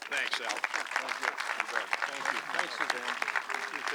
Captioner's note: audience clapping